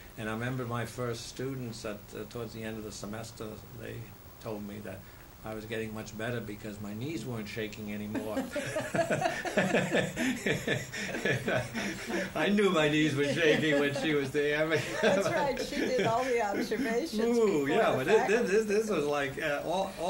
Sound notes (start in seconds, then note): 8.1 laughter; 12.2 laughs